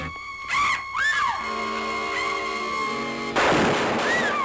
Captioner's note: Mary screams; gun roars